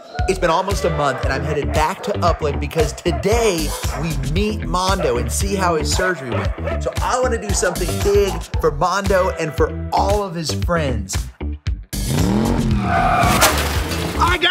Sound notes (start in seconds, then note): 11.9 truck engine revving; 12.0 tires screeching